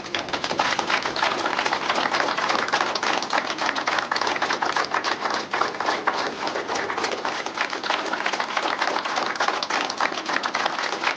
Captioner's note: applause